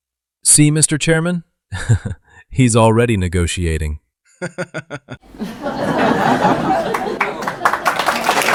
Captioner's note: laughter; applause and cheering